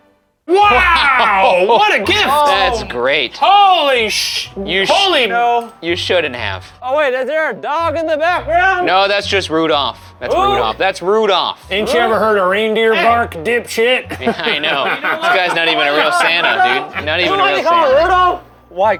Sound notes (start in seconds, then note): 3.6 shushing